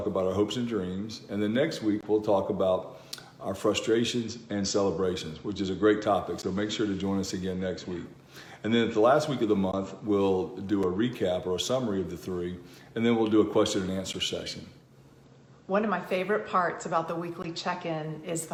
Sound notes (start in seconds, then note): none